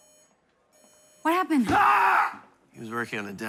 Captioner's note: patient screams